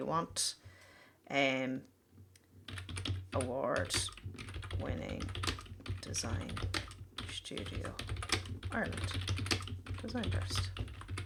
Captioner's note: typing